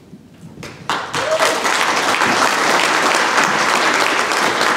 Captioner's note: applause